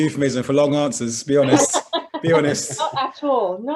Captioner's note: laughing